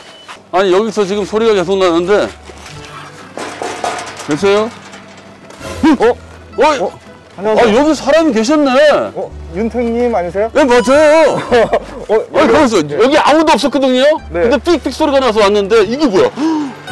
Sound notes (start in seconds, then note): 2.7 knock, knock